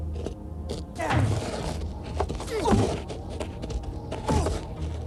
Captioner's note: both moaning